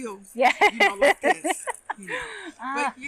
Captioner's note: laughing